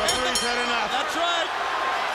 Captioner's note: bell ringing